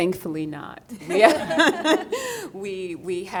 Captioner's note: group laughing